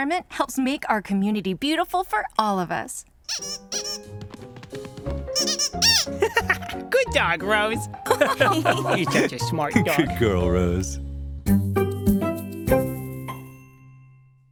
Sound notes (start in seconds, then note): 3.2 toy squeaks; 5.8 laughs; 8.0 laughter; 11.4 lighthearted music